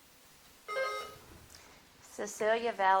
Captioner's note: bell dinging